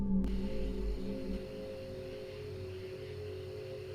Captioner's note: insects chirp